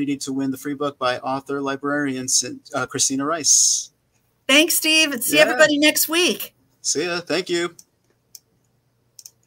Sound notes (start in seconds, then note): 9.1 mouse clicking